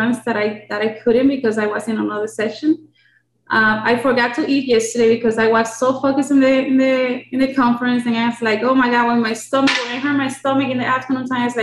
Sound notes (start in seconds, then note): none